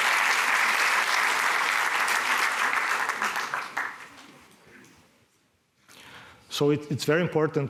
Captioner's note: applause